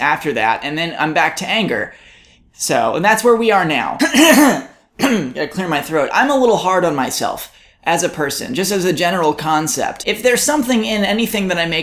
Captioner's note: coughs